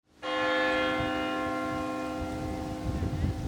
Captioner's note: bell rings